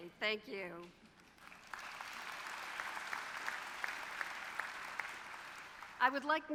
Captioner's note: applause